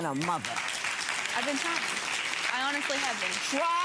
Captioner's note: audience applauding